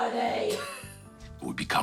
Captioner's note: laughs